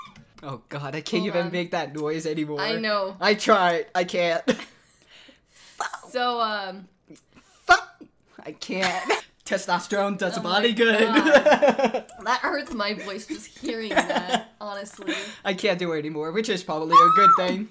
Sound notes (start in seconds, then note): 5.7 voice cracks; 7.9 voice cracks painfully; 11.0 laughs